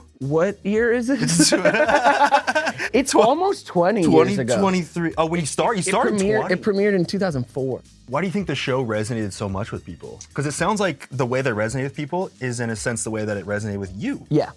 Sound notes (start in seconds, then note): 1.2 both laugh